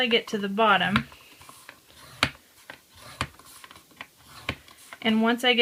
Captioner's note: scratching noises